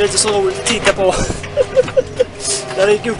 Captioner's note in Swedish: Skrattar